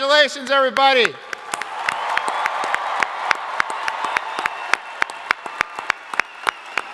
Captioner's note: crowd applauding; crowd cheering